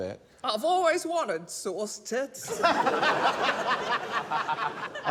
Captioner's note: laughter